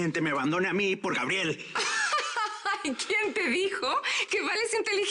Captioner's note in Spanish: Risas